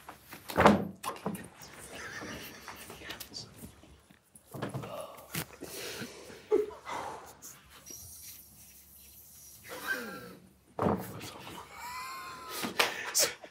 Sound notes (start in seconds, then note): 0.6 cards hitting table; 1.8 group quietly laughing; 6.4 sighs; 9.8 group quietly laughing